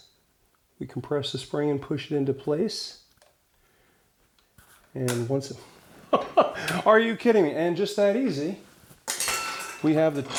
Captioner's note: laughs